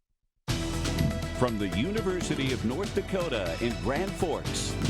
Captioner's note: voiceover